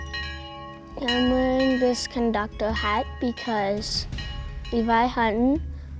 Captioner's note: train Bell Ringing